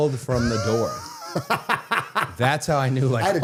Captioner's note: Matt laughing